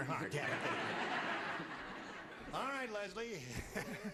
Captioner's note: laughter